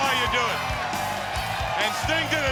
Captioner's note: crowd cheering